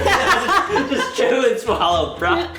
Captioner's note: laughs